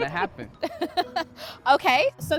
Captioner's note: laughter